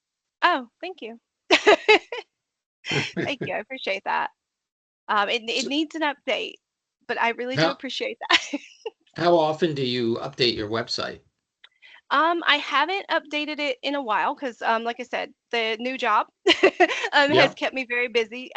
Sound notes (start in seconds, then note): 1.4 laughing